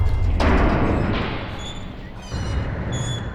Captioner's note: elevator whirring; creaking; elevator stops